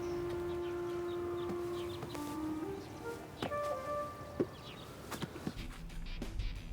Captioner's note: birds chirping; gentle music; upbeat music